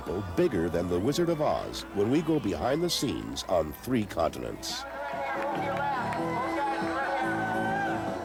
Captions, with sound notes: bigger than The Wizard of Oz... when we go behind the scenes on three continents. [Man Shouting Directions On Bullhorn]